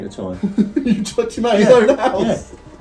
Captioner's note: laughing